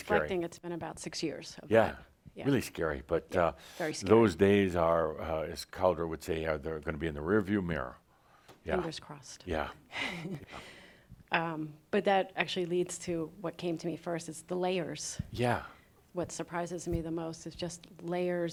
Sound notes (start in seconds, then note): 9.9 she chuckles